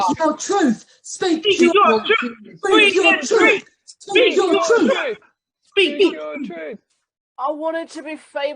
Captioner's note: chanting